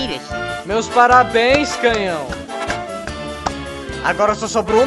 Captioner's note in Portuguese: Acompanhado de palminhas